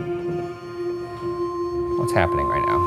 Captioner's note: REM-pod beeping